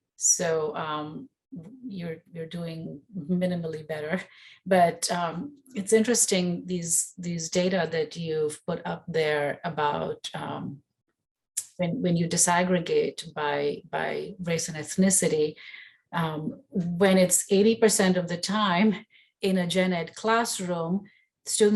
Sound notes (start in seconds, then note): none